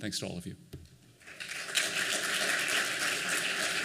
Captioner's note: applause